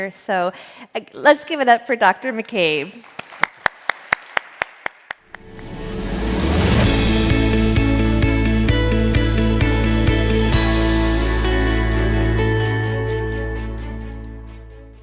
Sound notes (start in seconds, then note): 3.1 audience applauding; 6.1 upbeat music